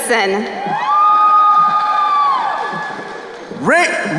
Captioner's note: crowd cheering